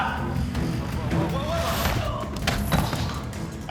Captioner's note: grunts